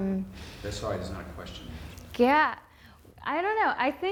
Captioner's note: voiceover